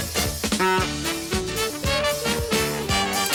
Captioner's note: car horn